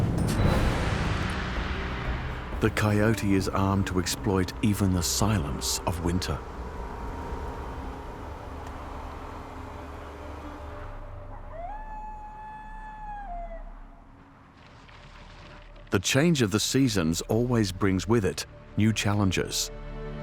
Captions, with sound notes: The coyote is armed to exploit even the silence of winter. [coyote howls] The change of the seasons always brings with it new challenges.